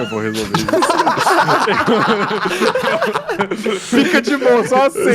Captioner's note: laughs